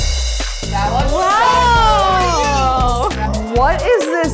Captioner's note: girls exclaiming